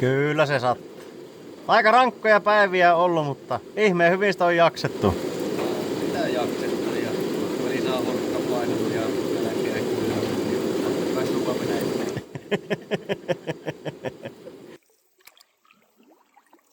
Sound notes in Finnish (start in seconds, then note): 12.1 naurua